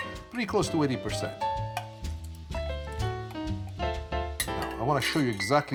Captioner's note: upbeat jazzy music; liquid swooshing